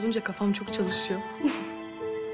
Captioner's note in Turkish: Gülme